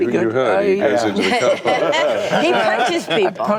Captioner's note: laughter